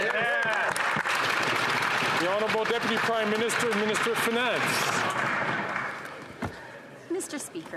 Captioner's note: some Applause